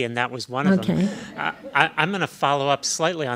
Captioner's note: laughing